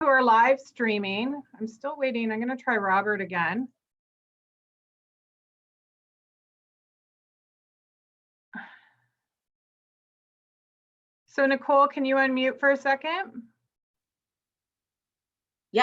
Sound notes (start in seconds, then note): 5.5 silence